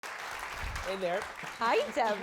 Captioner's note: audience applause